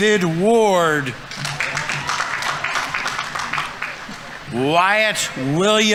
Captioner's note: audience applauding